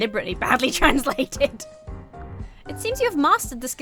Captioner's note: laughs